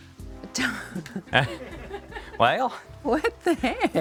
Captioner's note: people laughing